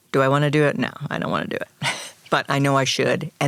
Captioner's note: chuckles